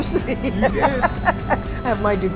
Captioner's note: laughter